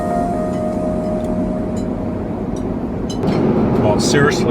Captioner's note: utensils clattering